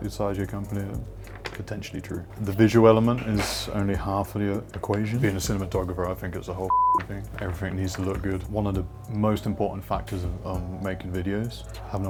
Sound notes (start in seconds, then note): 6.7 beep